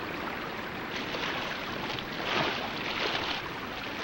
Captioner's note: water splashing